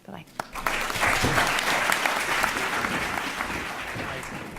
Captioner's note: applause